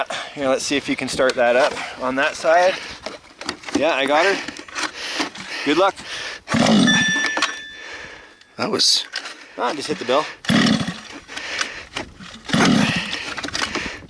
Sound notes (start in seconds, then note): 6.8 bell ringing; 9.6 engine cranking